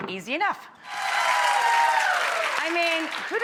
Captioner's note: audience cheering